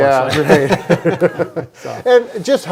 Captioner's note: laughing